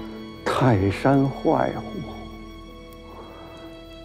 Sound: speaking Chinese

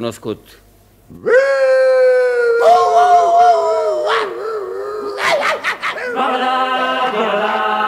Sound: barks like a dog

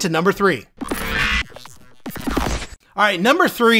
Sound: electricity squawking

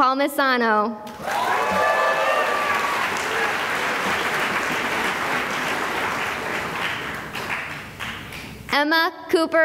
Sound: cheering and applause

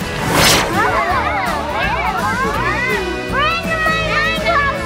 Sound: children cheer

